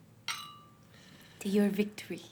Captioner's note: glasses clink